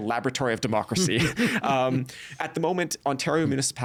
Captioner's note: chuckling